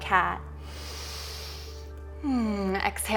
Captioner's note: inhaling